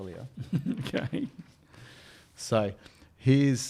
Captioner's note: laughs; paper rustling